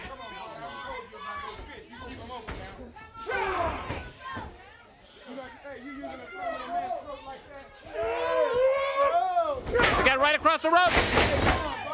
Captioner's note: crowd chatter